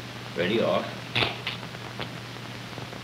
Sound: rubber snaps

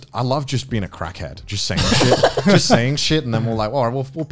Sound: laughs

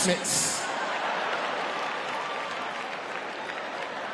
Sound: audience laughing

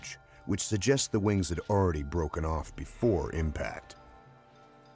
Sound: voiceover

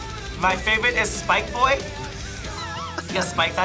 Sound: laughs

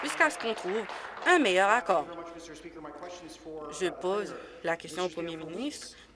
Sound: applause

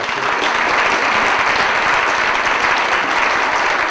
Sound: audience applauding

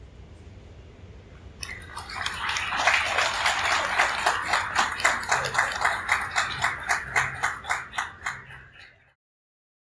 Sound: cheers and applause from crowd

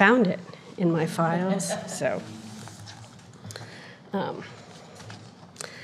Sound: audience chuckling

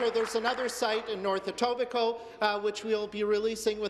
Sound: applause

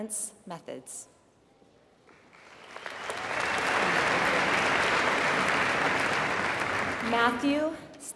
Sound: applause

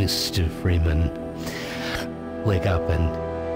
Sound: sharp inhale

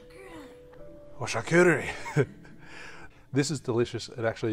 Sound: speaks in foreign language

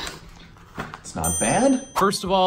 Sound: dinging

